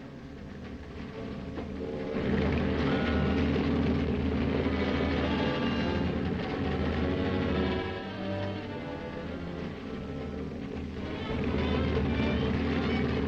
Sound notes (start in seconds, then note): 2.8 submarine rumbling; 2.8 tense uneasy music